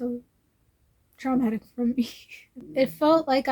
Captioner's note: laughs